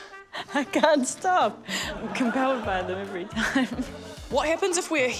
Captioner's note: laughs